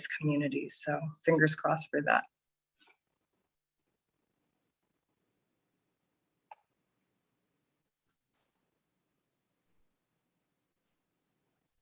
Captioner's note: silence